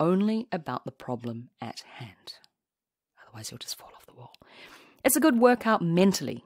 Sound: sotto voce

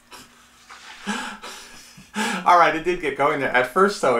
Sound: laughs

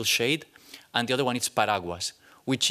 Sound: non-english

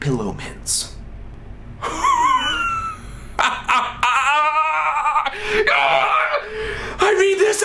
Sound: laughs maniacally

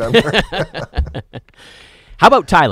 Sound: laughing together

